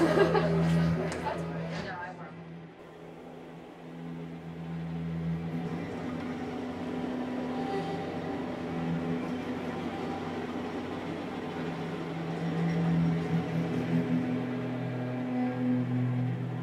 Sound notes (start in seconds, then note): 0.0 laughs; 5.1 wind blows; 13.8 somber music